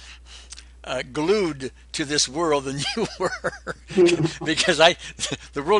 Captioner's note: laughs